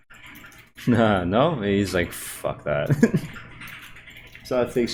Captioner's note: laughs